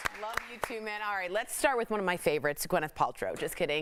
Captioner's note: applause